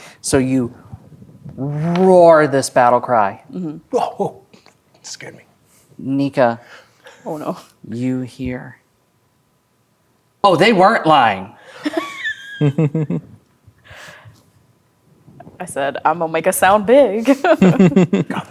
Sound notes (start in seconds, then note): 11.8 players laughing; 17.2 laughing